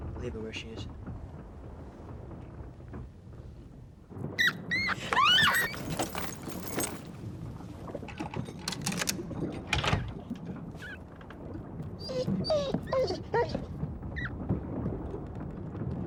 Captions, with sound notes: - Leave her where she is. (rat squeaking) (Coral screaming) (clicking) (Patch whining)